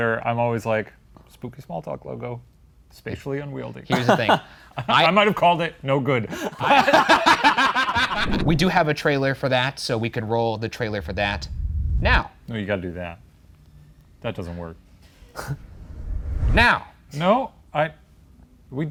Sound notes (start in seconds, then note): 6.4 everyone laughs; 15.2 air whooshing